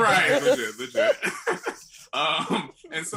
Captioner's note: laughter